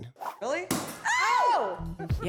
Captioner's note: pop!